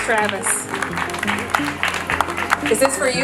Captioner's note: crowd clapping